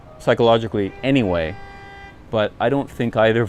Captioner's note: horn honking